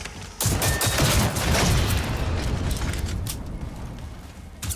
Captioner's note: gunshots blasting; robot booms